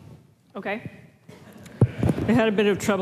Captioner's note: laughter